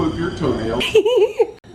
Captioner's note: laughing